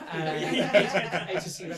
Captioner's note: all laugh